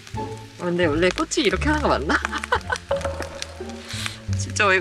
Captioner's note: laughs